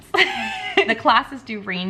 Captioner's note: laughing